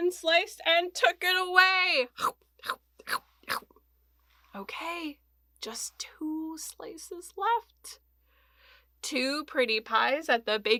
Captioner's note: eating noise